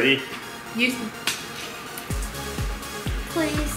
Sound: clicks; upbeat music

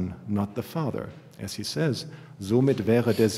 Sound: german

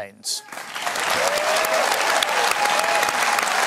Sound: cheering and applause

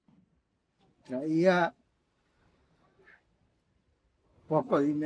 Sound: speaking Spanish

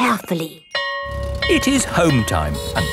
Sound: school bell ringing

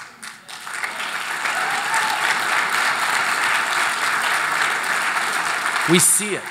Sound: applause

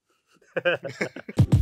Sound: laughs; upbeat music

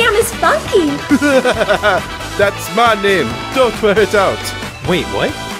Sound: laughs

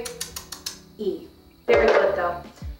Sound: tongue ticking

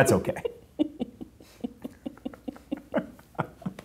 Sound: giggling

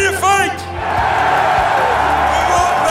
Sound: cheers

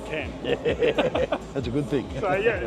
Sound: laugh

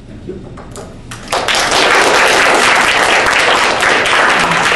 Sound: audience applauding

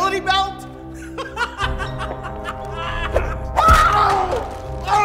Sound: Joker laughing

